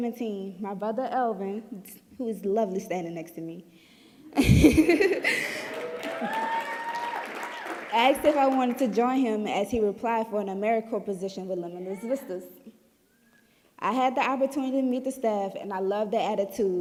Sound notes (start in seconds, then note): 4.3 giggling; 5.6 clapping